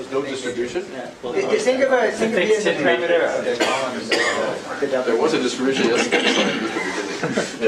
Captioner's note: laugh